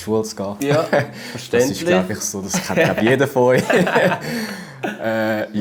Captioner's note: laughter